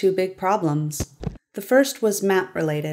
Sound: thud* *thud

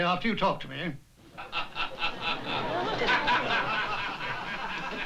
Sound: laughter

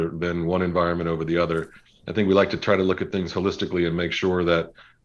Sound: none

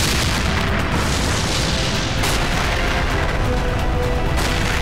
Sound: explosion

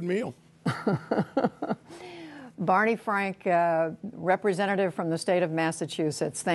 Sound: laughter

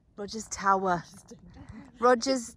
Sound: laughing

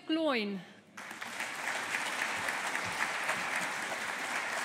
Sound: audience applauding

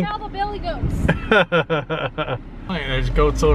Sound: laughing

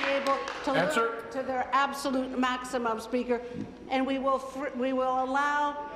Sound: applause

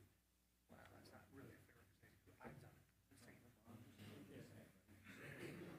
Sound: members chattering

